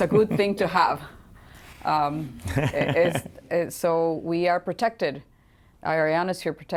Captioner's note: laughter